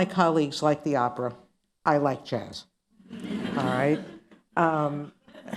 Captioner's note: laughter